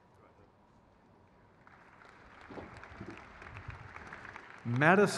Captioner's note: crowd cheers